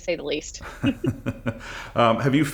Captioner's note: laughter